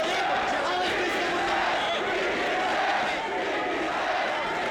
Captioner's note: crowd chanting